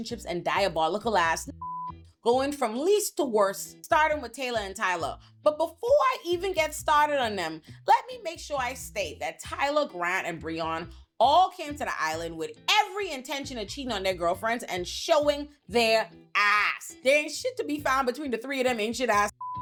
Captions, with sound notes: and diabolical ass (beep) going from least to worst, starting with Taylor and Tyler. But before I even get started on them, let me make sure I state that Tyler, Grant and Breon all came to the island with every intention of cheating on their girlfriends and showing their ass. They ain't shit to be found between the three of them ancient ass (beep)